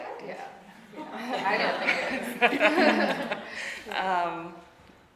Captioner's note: audience laughing